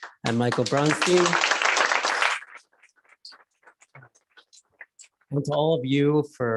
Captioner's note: applause